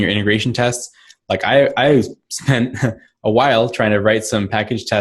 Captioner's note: laughs